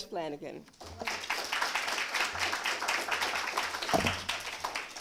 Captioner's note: applause